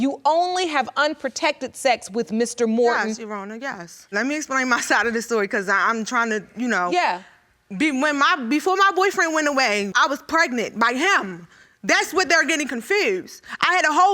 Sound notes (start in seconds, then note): 8.0 stammering